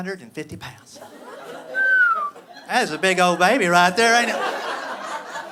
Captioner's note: whistles